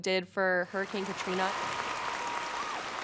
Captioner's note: crowd applauding